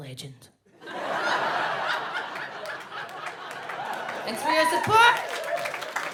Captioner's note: audience laughs